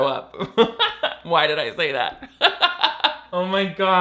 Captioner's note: laughs